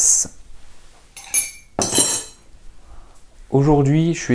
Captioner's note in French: Bruit de cuillère dans une tasse